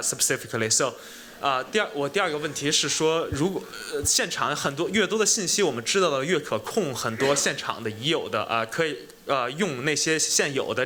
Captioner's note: speaking chinese